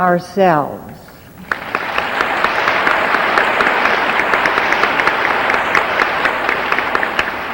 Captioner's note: audience applauding